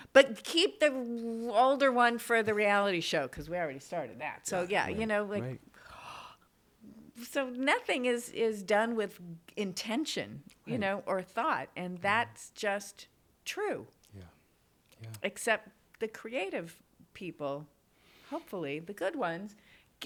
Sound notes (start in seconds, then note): 5.7 gasps